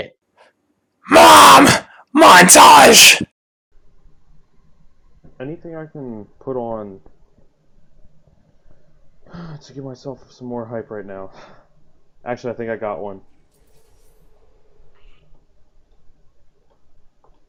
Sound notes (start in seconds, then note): 9.3 sighs